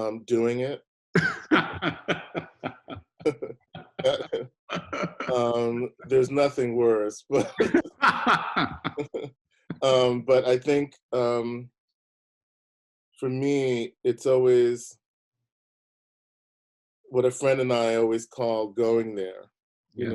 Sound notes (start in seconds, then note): 1.1 both laughing; 1.1 laughing; 7.2 both laughing